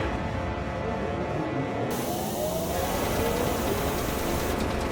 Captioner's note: engine noise